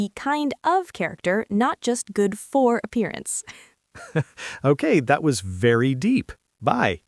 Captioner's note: laughs